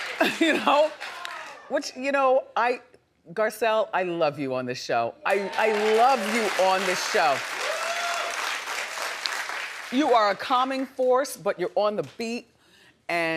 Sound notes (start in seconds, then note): 7.8 audience clapping